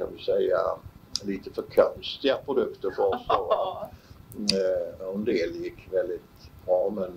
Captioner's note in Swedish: skratt